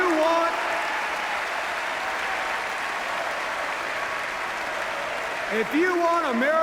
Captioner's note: chanting